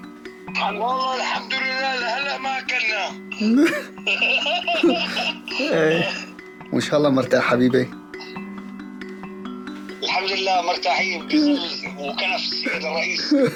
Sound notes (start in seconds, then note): 3.3 laughing